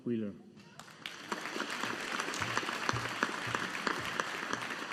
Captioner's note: audience applauding